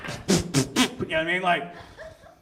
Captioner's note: beatboxes